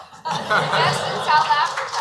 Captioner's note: laughing